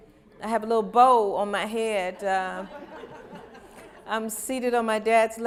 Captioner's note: laughter